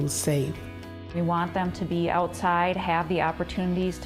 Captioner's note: voiceover